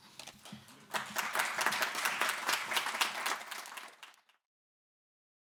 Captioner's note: audience clapping